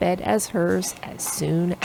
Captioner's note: none